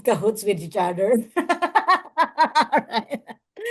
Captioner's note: laughs